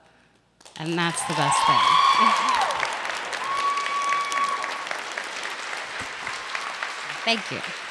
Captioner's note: applause